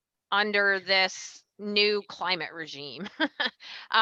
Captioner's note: laughs